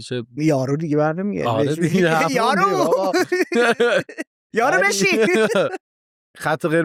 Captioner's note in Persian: خنده